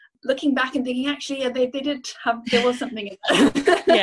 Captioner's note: laughs